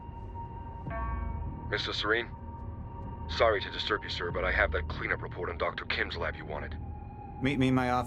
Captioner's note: A beeping noise is heard